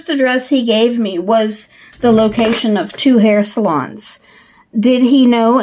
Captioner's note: ruler noise